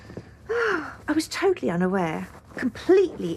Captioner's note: she sighs